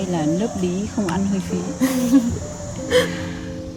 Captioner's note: laughs